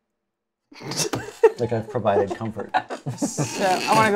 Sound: laughs

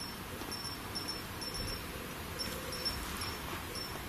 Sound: device beeps

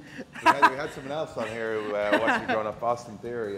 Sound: laugh

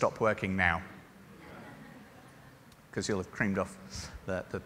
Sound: laughter

